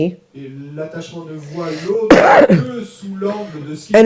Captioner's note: audience member speaks in French